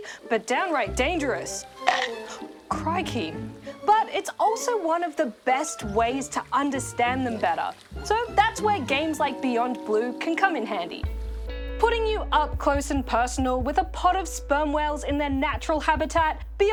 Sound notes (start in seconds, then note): 1.6 growls; 2.0 gasps